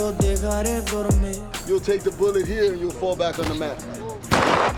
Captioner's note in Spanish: en inglés